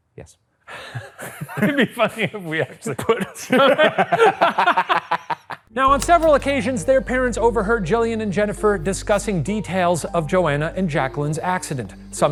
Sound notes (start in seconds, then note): 2.7 both laughing